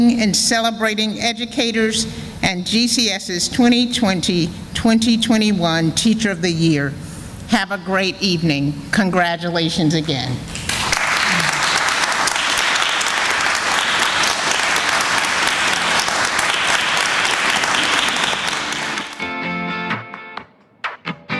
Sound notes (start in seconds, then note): 14.2 sounds of applause